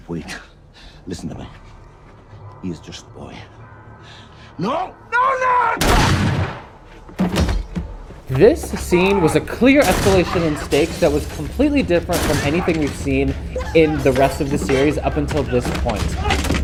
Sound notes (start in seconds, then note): 5.8 gun firing; 6.5 man thudding to floor; 16.4 mellow upbeat music; 16.4 men grunting